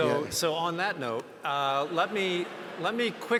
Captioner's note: audience laughs